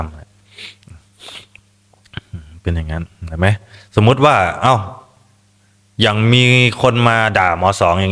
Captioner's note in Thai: เสียงสูดหายใจ